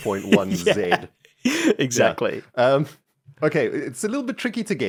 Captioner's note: laughs